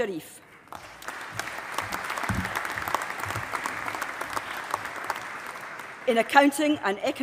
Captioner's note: applause